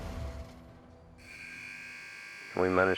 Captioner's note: buzzer sounds